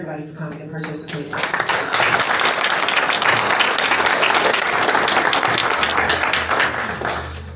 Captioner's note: applause